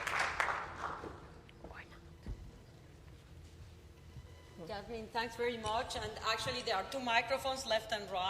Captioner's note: applause